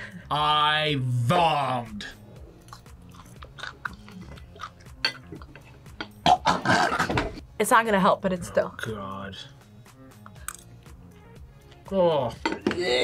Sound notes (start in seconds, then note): 5.2 both gagging; 12.8 gags